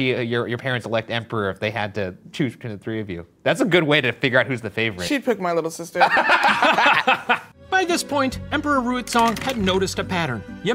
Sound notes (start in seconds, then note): 6.0 laugh